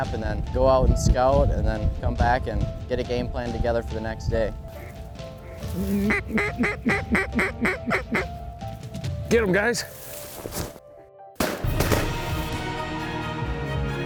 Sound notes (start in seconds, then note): 4.7 duck calls; 11.4 gun shots